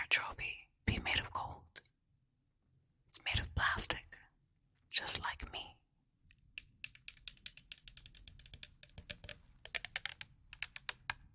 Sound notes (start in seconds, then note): 6.6 tapping bottle